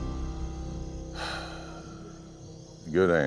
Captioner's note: sigh